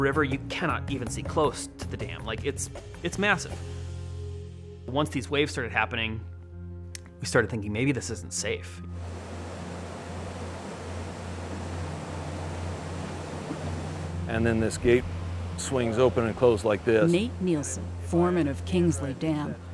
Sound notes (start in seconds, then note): 8.9 water rushing